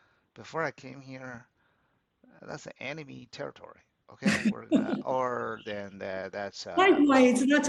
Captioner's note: laughs